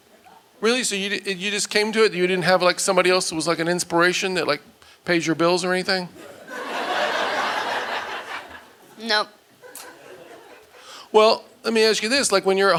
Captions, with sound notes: Really, so you just came to it? You didn't have somebody else who was an inspiration, that pays your bills or anything? (audience laughing) Nope. Well, let me ask you this, when you're at home,